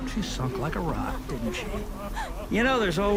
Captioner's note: people weeping